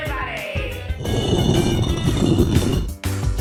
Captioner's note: stone grinding